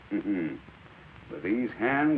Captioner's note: chuckles